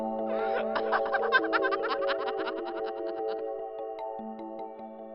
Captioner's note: disembodied laughing